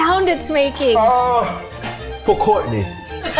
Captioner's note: groans